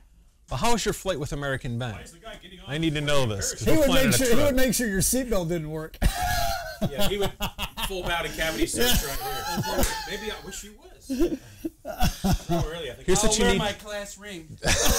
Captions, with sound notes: How has your flights with American been? I need to know this. He would make sure your seatbelt didn't work (background talking) He would pull out a full cavity search right here (laughter) I wish it was. I'll wear my class ring (laughter)